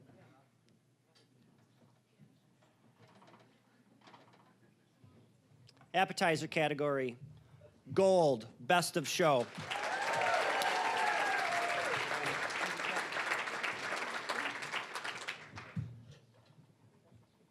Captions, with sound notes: Appetizer category, gold-- best of show. (cheering, applause) (applause)